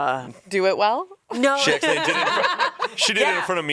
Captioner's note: laughs